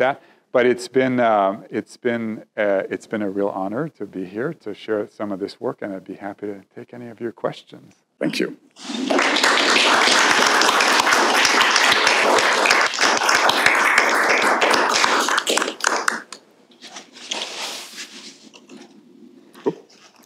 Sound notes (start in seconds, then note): 8.8 applause